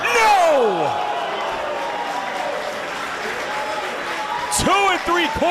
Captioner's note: applause